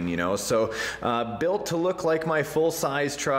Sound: laughs

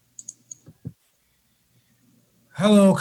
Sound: mouse clicks

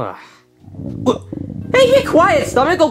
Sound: stomach growling; Luigi sighing

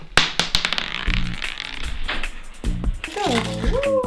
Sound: marble clattering

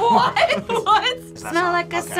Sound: laughs

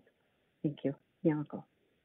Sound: speaks in foreign language

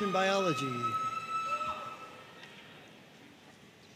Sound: audience cheering

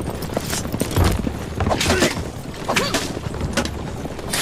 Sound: hidden blade stabbing sound

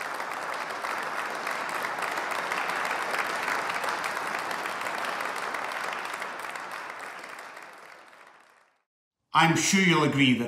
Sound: applause

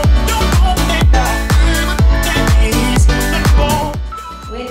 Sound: beeping

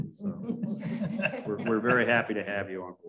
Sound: laughter

